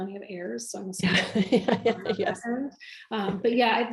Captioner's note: laughs